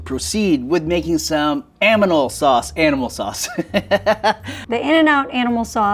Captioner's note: laughs